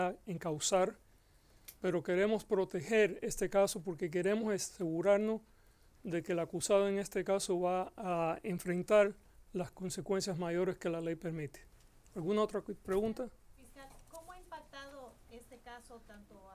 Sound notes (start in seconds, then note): 13.4 reporter Speaking Spanish